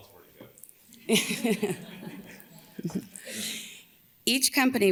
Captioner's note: audience laughs; laughs